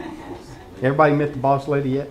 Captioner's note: laughter